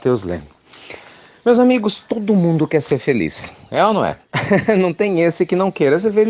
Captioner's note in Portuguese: Risos